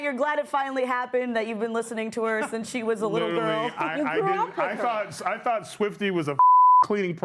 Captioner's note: laughter